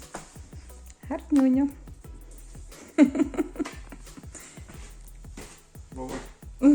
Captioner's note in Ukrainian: сміх